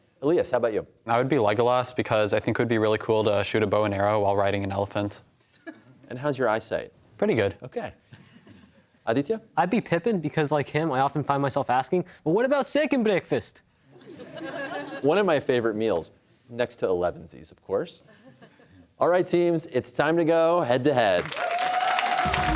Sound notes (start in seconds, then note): 12.6 accented; 13.9 laughter